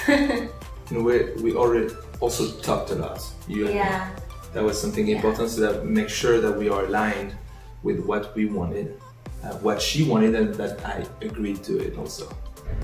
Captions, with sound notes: (woman laughs) - We also talked a lot. - Yeah. - You and me. There was something (speaking faintly) make sure that we are aligned with what we wanted, what she wanted and that I agreed to it also.